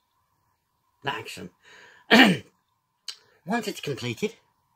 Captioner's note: clears throat